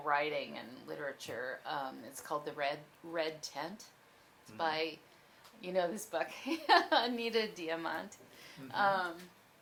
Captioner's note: laughs